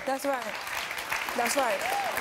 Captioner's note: audience applauding